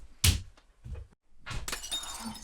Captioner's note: glass shattering